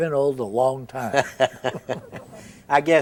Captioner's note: both chuckle